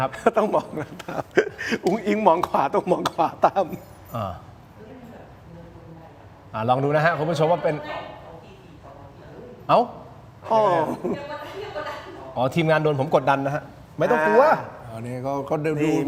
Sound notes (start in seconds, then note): 10.5 laughs